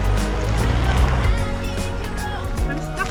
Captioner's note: tyres spinning